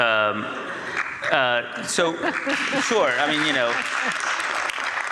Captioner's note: audience applauds